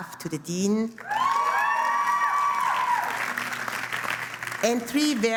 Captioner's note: applause